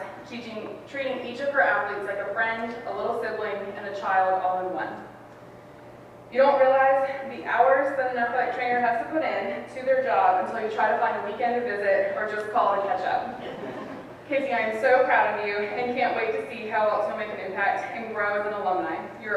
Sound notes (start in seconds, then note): 13.3 audience laughs